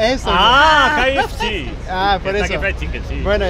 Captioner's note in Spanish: avec l'accent anglais